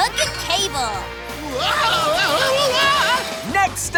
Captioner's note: screaming